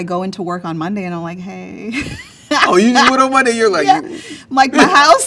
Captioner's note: laughs